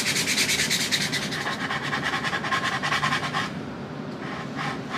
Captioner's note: sanding ASMR